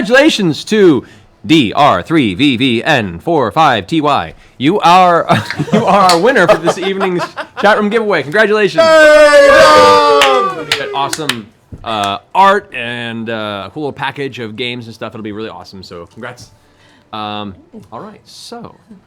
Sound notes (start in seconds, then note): 8.7 cheering